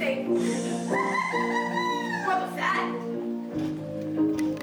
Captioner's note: sinister Bear Laugh from off